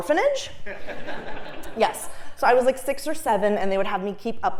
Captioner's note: laugh